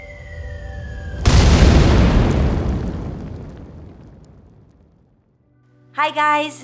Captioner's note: explosion Sound Effect